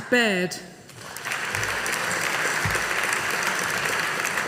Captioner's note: audience applauding